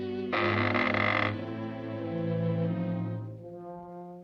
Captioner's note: mouth creaks